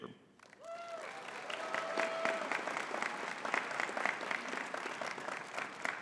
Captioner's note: audience cheering and clapping